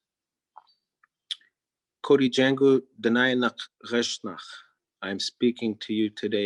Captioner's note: speaking in Native Language